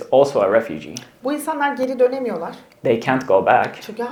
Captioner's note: speaks in Turkish